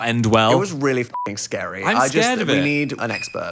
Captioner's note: beep